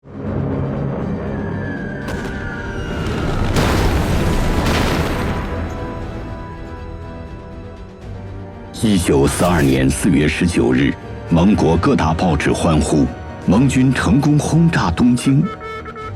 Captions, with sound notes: (air raid bombing) April 19, 1942 Allied newspapers hailed in unison: The Allies successfully bombed Tokyo.